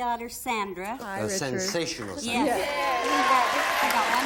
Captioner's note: applause